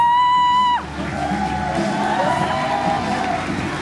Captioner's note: the guests follow and cheer too